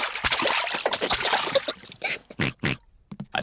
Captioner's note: giggles; oinks